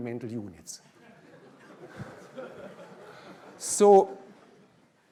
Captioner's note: laughter